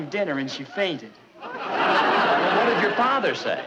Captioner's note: audience laughing